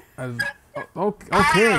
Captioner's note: laughing